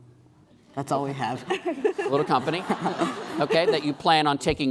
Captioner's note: laughing